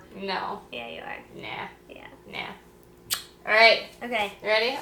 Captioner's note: hand smooch